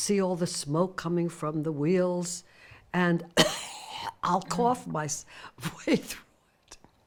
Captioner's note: cough